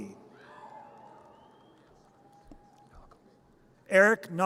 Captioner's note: audience cheers